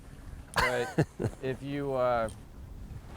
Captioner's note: laughs